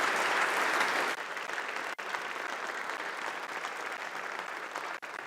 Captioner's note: applause